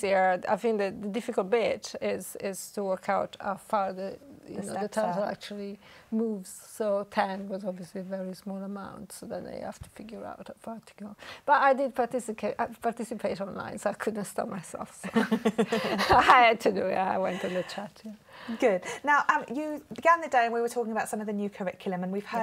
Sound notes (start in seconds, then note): 15.0 laughter